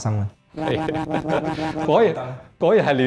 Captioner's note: really!! laughs